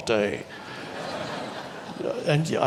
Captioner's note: audience laughs